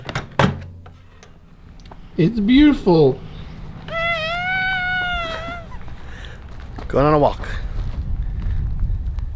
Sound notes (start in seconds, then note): 3.9 chuckles; 3.9 sighs